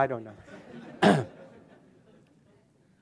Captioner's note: laughter